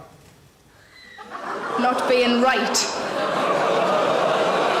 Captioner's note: audience groans